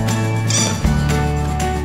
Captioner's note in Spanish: Juguete chirriante